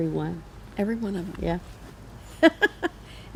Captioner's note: laughs